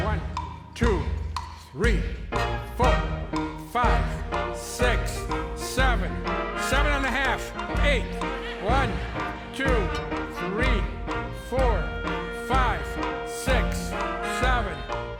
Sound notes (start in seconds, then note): 7.7 laughter